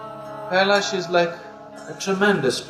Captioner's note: laughs